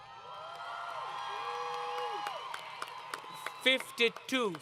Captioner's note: crowd Cheering